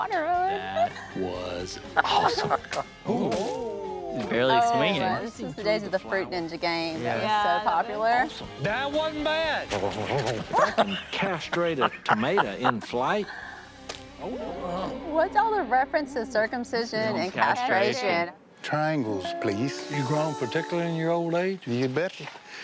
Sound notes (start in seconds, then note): 9.4 gobbling fruit; 9.8 laughing